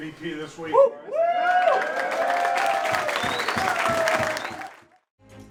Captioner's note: cheering